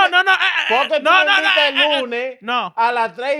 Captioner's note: speaking In Foreign Language